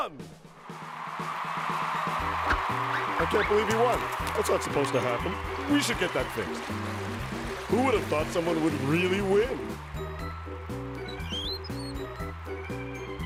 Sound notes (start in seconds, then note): 0.1 cheers and applause; 10.9 wheels squeaking